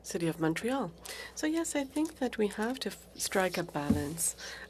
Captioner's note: speaking French